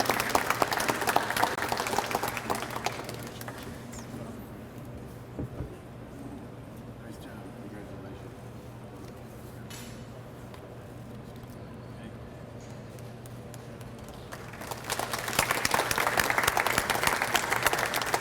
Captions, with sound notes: - Nice job, congratulations. Thank you. (audience applauds)